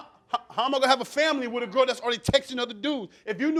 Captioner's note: stammering